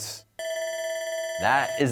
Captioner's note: bell ringing